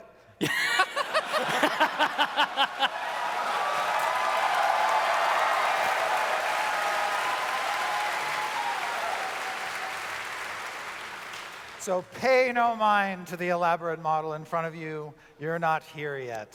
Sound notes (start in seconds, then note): 0.4 laughter; 3.1 audience cheers